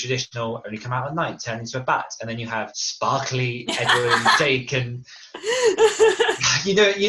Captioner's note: laughs